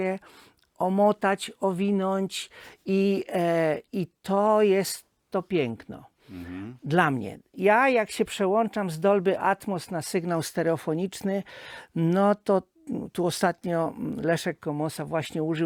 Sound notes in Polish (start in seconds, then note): 0.9 parsknięcie